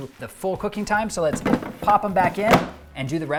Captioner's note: fryer drawer banging